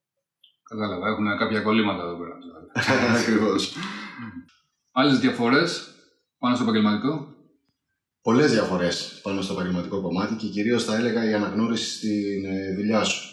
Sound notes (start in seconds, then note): 1.0 laughs